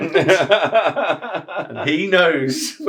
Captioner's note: laughs